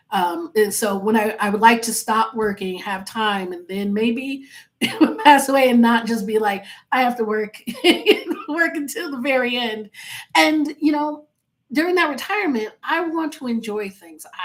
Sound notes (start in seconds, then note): 8.0 laughing